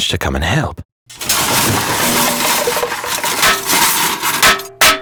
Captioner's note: pots and pans bang